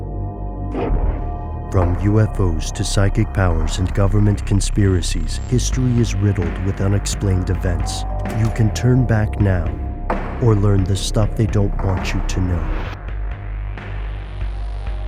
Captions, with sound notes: - [Voiceover] From UFOs to psychic powers and government conspiracies, history is riddled with unexplained events. (door bell) You can turn back now or learn the stuff they don't want you to know.